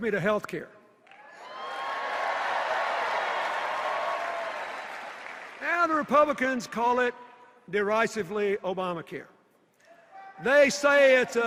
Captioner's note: cheers and applause